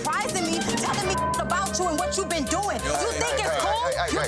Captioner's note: beeps